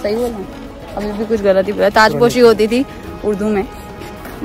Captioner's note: in urdu